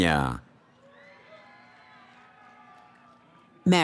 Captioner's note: cheering